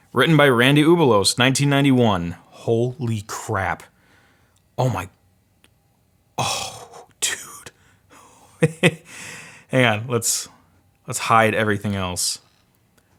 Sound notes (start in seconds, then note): 8.6 laughs